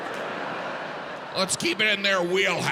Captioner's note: audience laughing